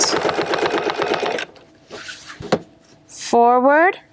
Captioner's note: machine whirring